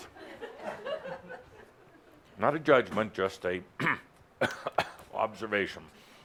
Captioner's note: he coughs